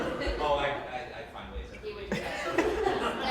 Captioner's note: laughing